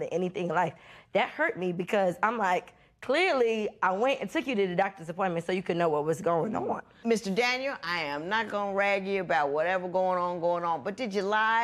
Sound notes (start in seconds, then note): none